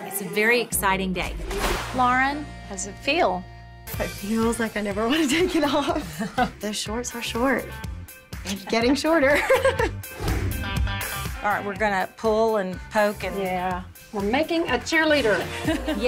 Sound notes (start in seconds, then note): 8.4 laughs